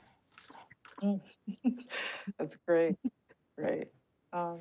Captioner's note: laughs